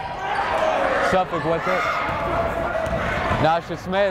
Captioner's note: yelling